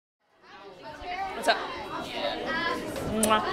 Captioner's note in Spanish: alumnos charlando